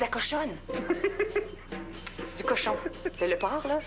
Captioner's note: Rire